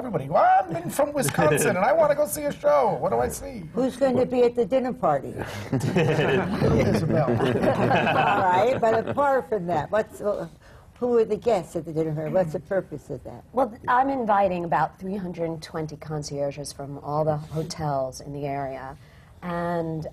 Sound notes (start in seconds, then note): 5.4 laughter